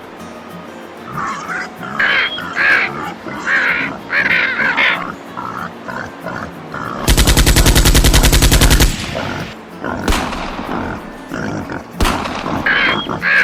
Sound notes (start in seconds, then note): 3.9 growling and grunting of mutant boars; 7.0 sounds of machine gun fire